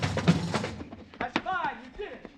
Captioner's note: chatter